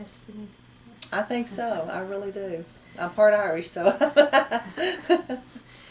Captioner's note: laughs